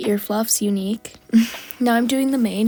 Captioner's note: laugh